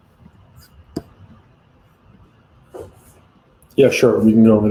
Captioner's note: object thuds